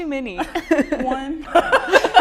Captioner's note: laughter